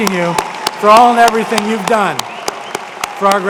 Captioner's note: applause